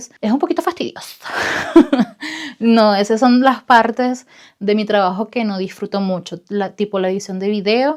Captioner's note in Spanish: risas